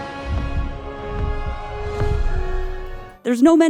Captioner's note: heart beating